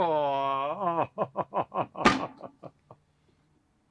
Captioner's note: Gilbert chortles